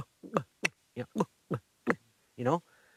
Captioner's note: making gutter sounds